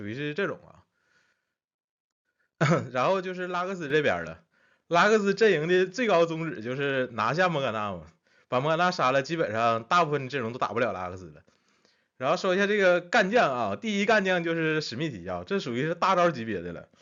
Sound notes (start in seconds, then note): 2.6 cough